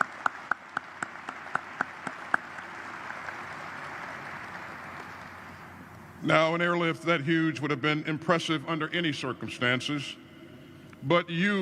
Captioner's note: applause